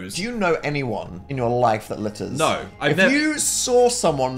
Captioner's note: none